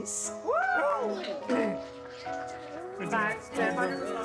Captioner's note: cheering; dramatic music